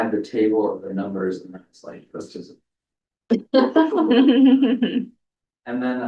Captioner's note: laughter